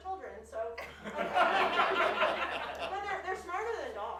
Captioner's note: audience laughs